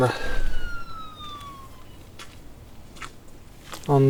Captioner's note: detects movement, takes a photo and emits a "siren" sound